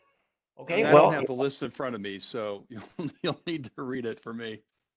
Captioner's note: laughs